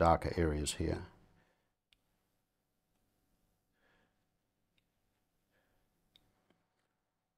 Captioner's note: silence